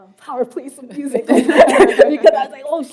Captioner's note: laughter